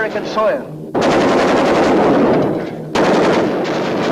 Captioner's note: guns firing